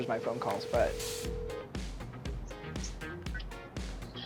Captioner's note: ringing